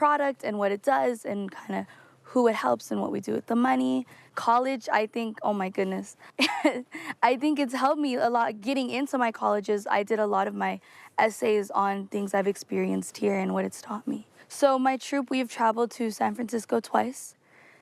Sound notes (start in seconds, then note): 6.3 laughs